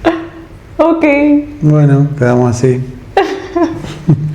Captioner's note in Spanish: risas